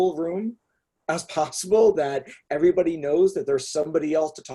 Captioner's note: chuckles